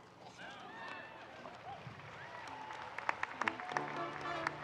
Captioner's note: audience cheering